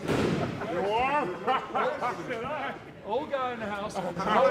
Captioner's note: wrestlers laughing